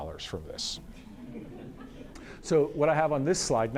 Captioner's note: audience laughter